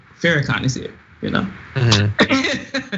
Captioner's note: laugh